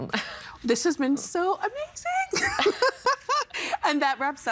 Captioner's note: laughing